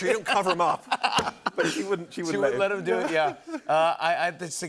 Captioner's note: laughter